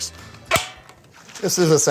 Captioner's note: lid snaps